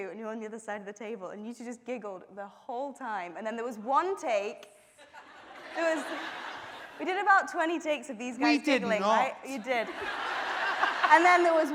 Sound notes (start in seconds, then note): 5.1 audience laughing; 9.5 laughing